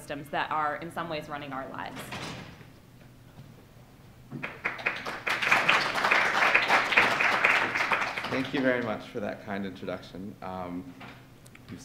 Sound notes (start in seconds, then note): 4.4 applause